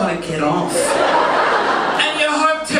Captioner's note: audience laughing